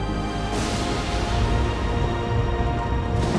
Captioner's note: thunder crashing